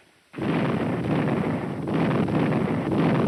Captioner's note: gunshots